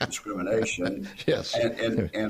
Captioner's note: laughter